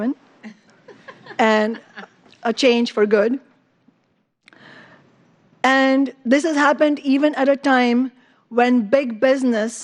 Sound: laughter

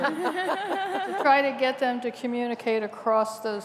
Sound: laughter

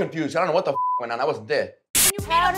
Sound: beep

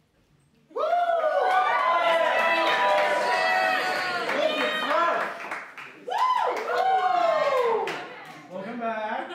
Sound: cheers and applause

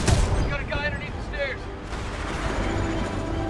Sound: radio

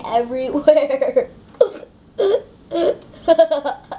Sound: laughing

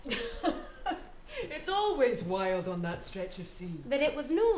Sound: laughing

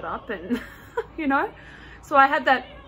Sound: laughs

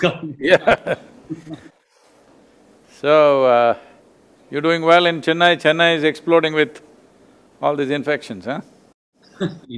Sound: laughs

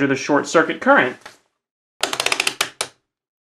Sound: multimeter dial clicking

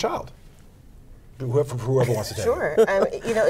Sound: laughing

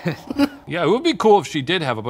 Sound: both giggle

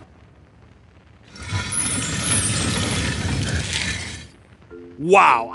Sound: door opens

